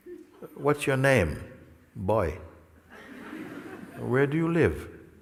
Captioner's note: risadas